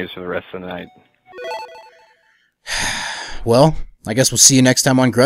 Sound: sigh

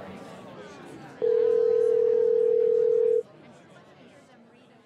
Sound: phone rings

